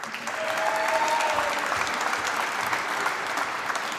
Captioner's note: applause